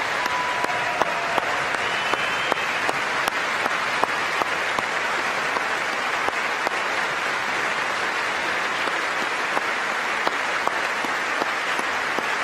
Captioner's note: applause